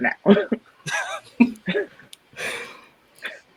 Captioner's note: laugh